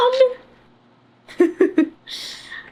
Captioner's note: laughs